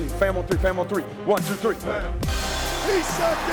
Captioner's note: team chanting